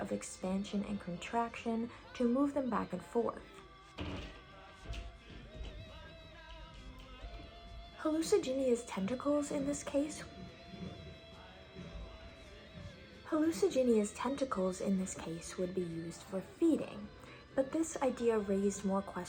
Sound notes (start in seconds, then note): 5.2 creaking sounds from ceiling; 11.6 vacuuming noises